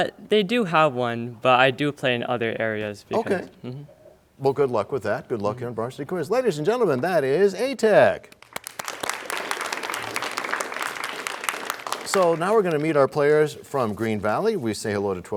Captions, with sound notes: -They do have one, but I do play in other areas. -Okay. Well, good luck with that. Good luck here on Varsity Quiz. Ladies and gentlemen, that is A-Tech! [applause] So now we're gonna meet our players from Green Valley.